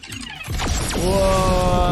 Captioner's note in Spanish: ruido electrónico